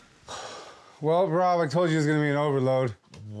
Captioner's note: sighs